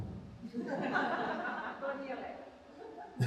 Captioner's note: audience laughs